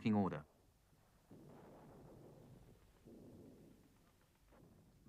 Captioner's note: guns firing